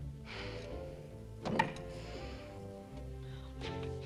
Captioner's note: Tracima sighs